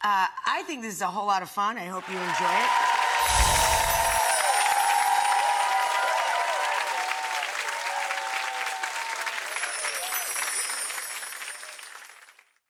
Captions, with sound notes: I think this is a whole lot of fun. I hope you enjoyed it. (audience cheers)